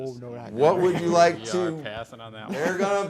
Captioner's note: players murmuring